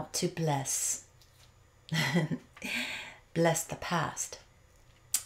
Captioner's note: chuckles